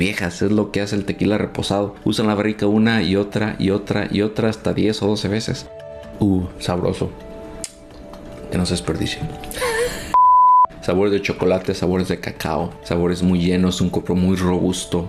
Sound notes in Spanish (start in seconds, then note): 9.5 risas